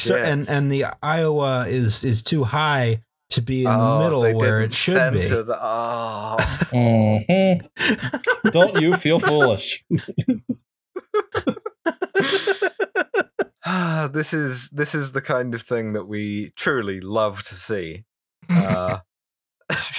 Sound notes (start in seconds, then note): 7.8 laughter; 11.0 fits of giggles